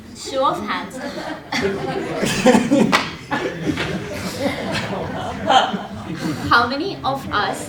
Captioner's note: laugh